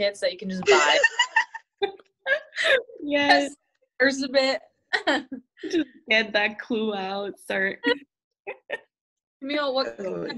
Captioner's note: laughter